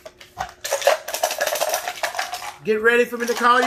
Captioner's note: shape objects cluttering